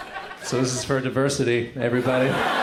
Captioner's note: crowd laughter fades in